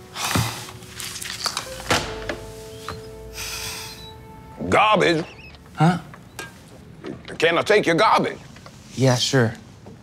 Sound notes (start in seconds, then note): 0.0 sad music; 3.2 wheels squeaking